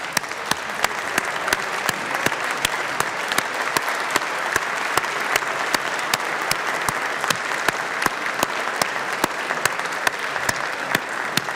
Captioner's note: applause